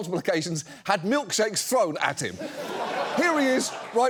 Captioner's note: audience laughs